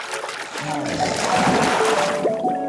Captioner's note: water sloshing; water splashes; water burbling